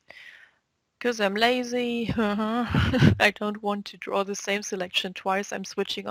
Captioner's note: chuckle